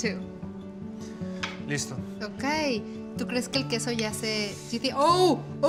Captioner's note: speaks Spanish